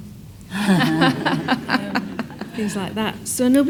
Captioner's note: audience laughs